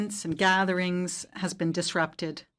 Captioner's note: speaking French